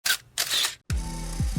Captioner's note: camera shutter clicks; film reel spins